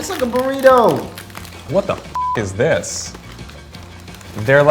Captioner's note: beep